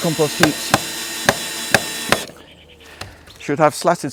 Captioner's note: drilling